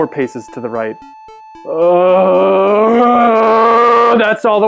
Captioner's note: long guttural groan